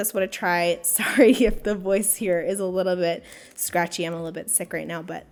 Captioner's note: laughing